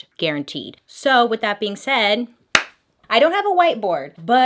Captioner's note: claps